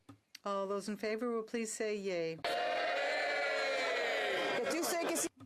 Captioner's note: speaking French